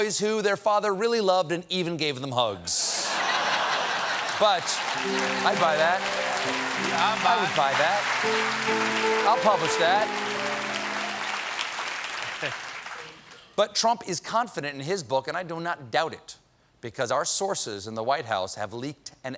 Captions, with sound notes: BOYS WHO THEIR FATHER REALLY LOVED AND EVEN GAVE THEM HUGS." BUT-- I'D BUY THAT. ( LAUGHTER ) ( APPLAUSE ) I'LL PUBLISH THAT. BUT TRUMP IS CONFIDENT IN HIS BOOK, AND I DO NOT DOUBT IT, BECAUSE OUR SOURCES IN THE WHITE HOUSE HAVE LEAKED AN